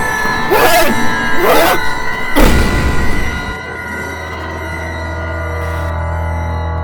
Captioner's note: screaming